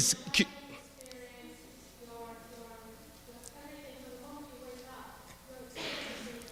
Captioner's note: speaking off microphone